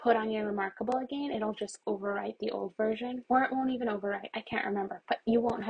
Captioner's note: more mouse clicks